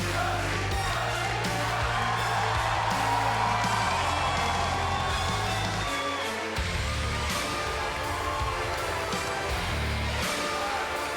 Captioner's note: crowd cheering